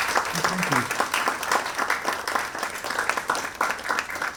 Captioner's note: audience applauds